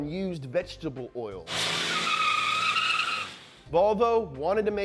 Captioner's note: wheel screeching